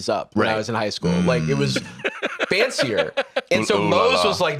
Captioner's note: laughs